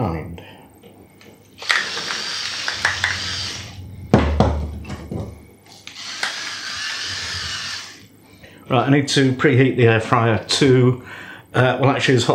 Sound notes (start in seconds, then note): 1.6 electric grinder grinding